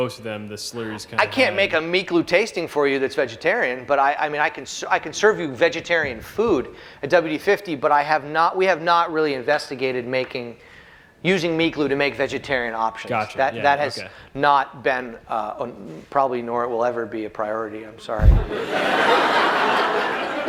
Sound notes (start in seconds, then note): 18.5 laughter